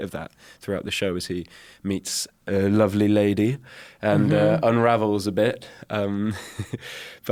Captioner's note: chuckles